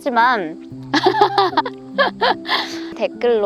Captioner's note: laughter